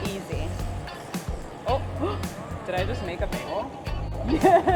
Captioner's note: gasps; laughs